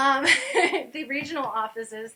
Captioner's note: laughter